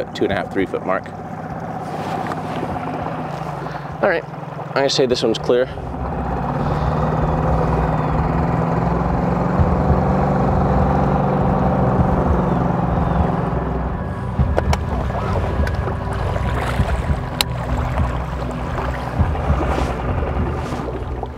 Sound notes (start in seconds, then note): 6.8 boat spluttering; 6.8 dramatic music